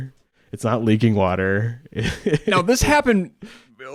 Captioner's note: laughs